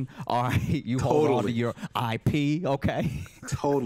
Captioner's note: laughs